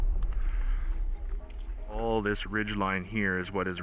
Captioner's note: voiceover